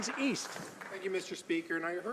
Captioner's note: some Applause